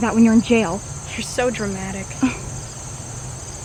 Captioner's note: tracey scoffs